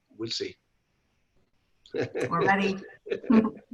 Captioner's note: laughing